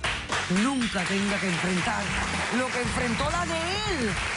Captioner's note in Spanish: Aplausos